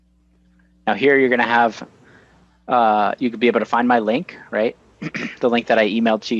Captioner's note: clears throat